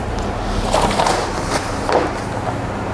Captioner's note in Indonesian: suara kertas pelindung